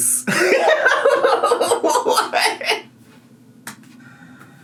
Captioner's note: laughs